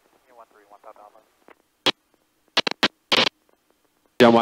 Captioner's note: radio murmuring